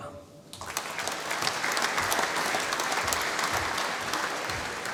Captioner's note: applause